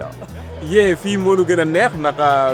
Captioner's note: non-english speech